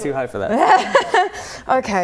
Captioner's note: laughs